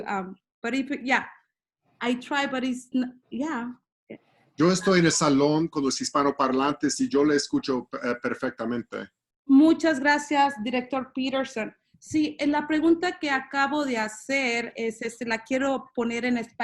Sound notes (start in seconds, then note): 4.5 in Spanish